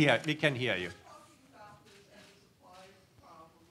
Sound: murmurs

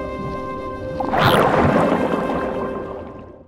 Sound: scared chirp; splash!

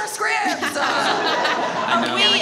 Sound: all laugh

